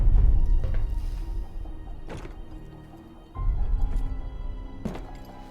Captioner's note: thunder